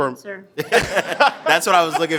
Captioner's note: board members laughing